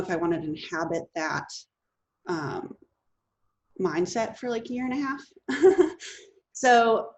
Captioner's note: laughs